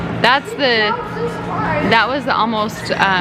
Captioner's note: yelling